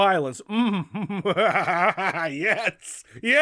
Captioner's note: laughing